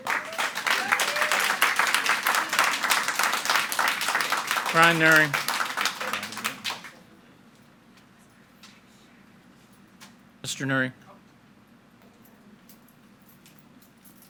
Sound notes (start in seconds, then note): 0.0 audience applauding